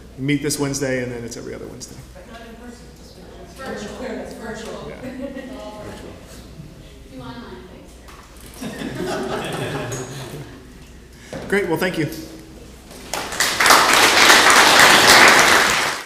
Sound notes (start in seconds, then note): 4.7 laugh; 12.9 applause